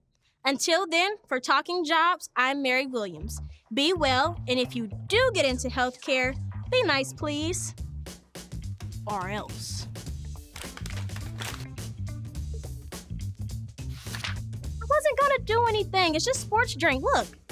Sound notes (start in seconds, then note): 9.7 soft upbeat music; 10.4 paper crinkling